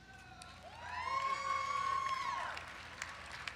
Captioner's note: crowd cheers